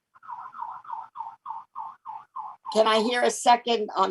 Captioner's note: feedback echoing